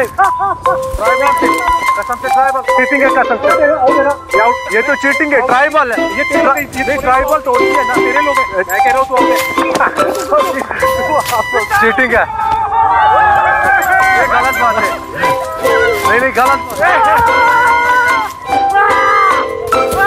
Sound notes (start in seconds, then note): 13.3 crowd shouting excitedly; 18.4 phone ringing